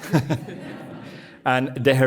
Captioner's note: audience laughing